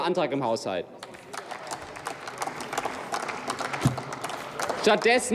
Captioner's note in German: Applaus